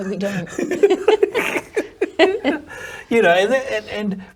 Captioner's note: both laugh